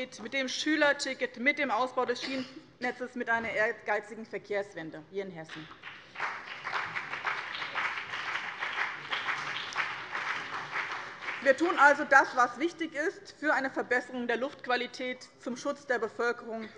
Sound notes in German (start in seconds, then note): 5.5 Beifall BÜNDNIS 90/DIE GRÜNEN und vereinzelt CDU